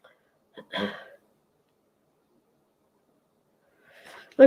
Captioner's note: clearing throat